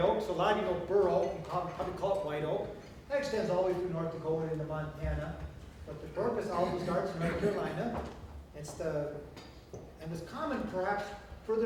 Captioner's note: audience laughter